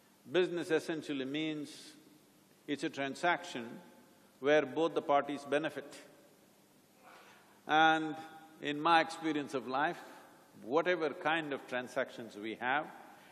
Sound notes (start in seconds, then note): none